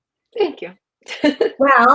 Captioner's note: laughs